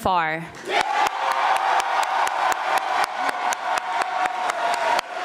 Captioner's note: audience applauding